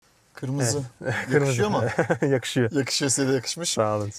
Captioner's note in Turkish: kahkaha